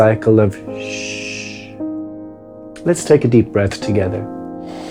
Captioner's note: shushing